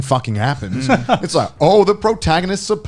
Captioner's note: laughs